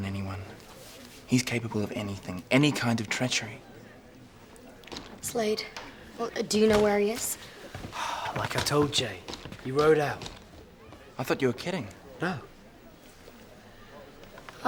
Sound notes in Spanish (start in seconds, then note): 7.8 suspira